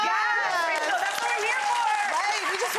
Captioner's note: audience cheering